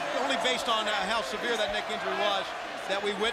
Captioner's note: crowd cheering